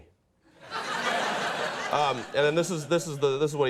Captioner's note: audience laughs